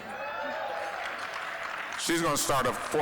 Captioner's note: applause